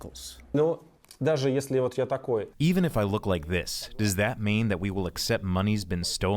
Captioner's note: through translator